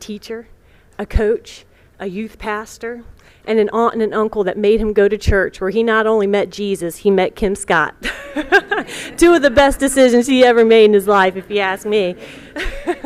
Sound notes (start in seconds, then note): 8.0 laughter